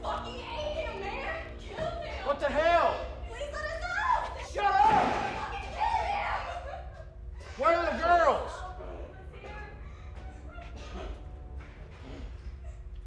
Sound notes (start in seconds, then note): 7.0 girl sobbing